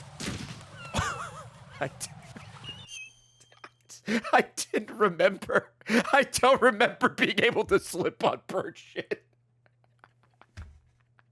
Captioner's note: laughs